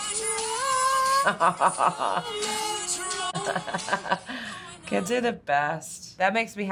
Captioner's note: sings along; chuckles